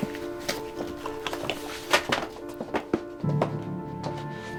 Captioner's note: books thudding